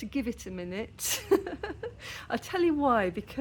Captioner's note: laughing